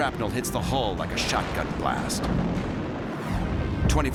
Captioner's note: explosion